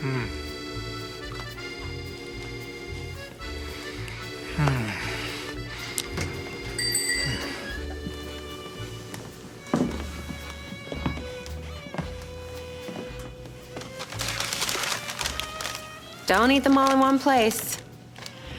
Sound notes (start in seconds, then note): 6.7 bell; 13.6 rustling paper bag